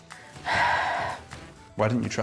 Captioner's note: sighs